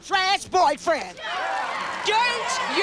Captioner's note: cheering